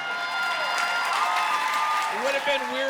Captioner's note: audience clapping and cheering